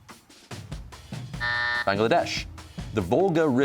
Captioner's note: buzzer sounds